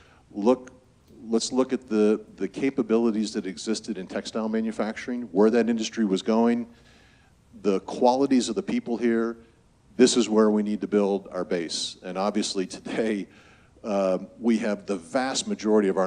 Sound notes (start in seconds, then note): none